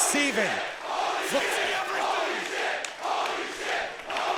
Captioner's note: audience chanting